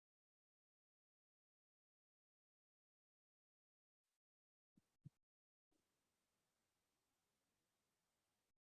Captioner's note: silence